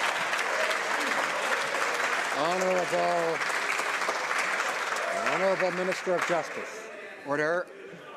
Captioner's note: some Applause